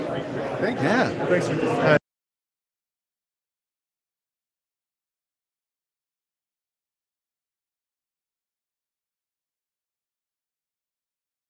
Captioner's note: no audio